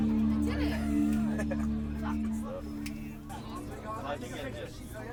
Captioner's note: chattering, laughing